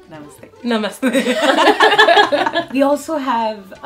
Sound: laughter

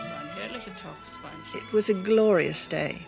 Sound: speaks foreign language

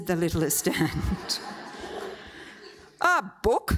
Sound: audience laughs

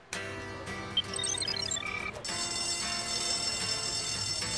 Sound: computer beeping sound; school bell ringing

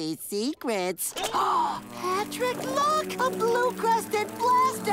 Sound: gasps

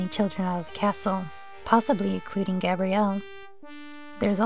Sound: none

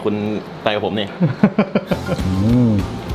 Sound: laughing off

